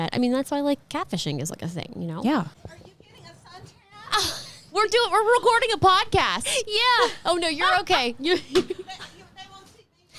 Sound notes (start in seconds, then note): 8.2 laughing